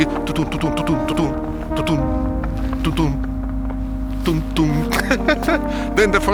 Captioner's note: laughs